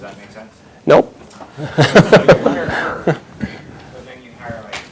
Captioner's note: chuckles